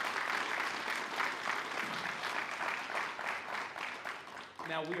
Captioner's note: applause